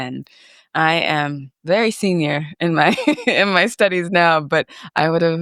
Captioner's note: chuckles